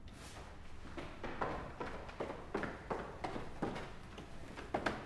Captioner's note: footsteps thumping